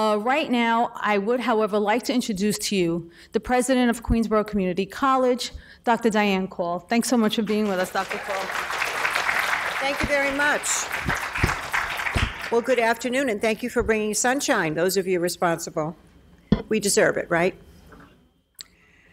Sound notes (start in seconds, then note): 7.4 applause